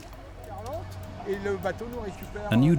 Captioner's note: man speaking French